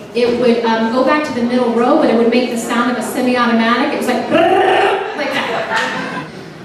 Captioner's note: rolling the tongue